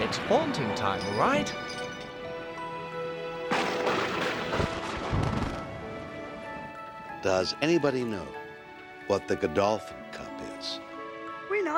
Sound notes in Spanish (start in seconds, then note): 3.5 la caída de rayos; 3.6 trueno aplaude